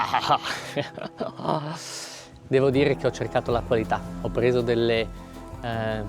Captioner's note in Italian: sbuffare